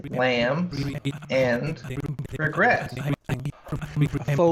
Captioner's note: glitches and blips grow louder, overtaking the dialogue